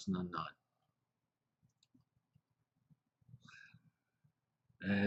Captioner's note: pause